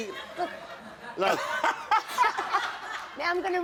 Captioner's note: all laugh